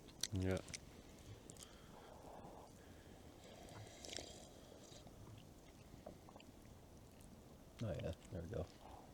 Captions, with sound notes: "Yeah" *slurps* "Oh yeah, there we go"